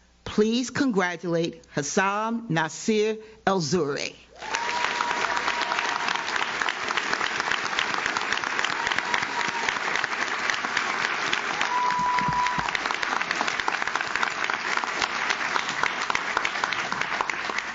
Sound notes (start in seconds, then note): 4.6 audience cheers; 4.6 audience claps